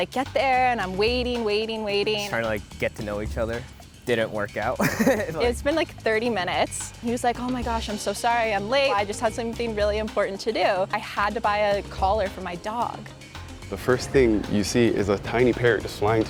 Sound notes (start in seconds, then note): 4.8 laughing